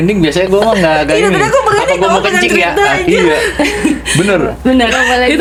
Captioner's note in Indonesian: tertawa